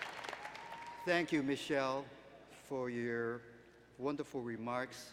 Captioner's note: applause